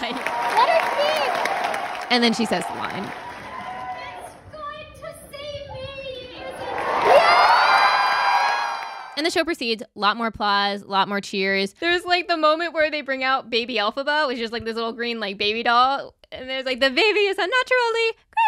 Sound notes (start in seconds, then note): 6.9 cheering and clapping